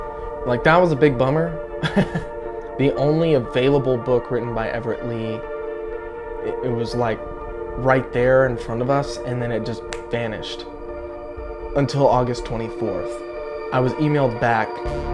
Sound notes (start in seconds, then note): 1.4 laughs; 9.7 fingers snap